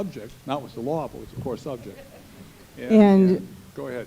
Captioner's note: laughter